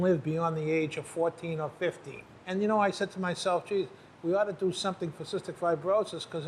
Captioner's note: none